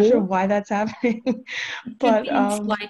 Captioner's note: chuckles